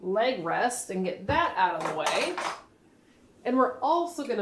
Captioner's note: wheelchair parts clanking